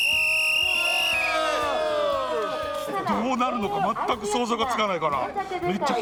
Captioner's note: applause